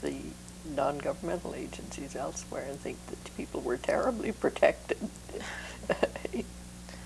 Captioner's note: laughter